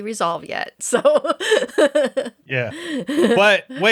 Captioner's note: laughs